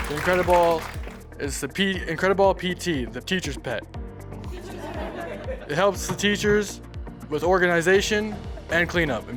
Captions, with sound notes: - The IncredaBall PT, the teacher's pet. (audience laughing) It helps the teachers with organization and cleanup.